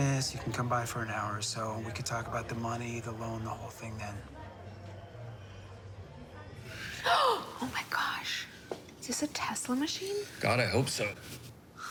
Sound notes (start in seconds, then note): 6.7 gasps